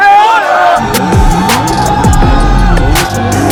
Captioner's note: frenzied crowd